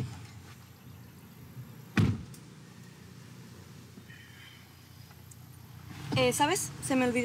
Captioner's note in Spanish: Portazo